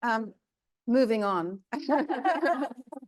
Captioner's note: both laughing; laughing